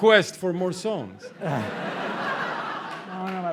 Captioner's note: laughter